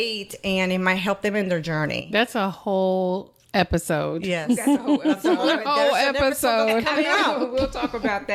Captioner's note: laughter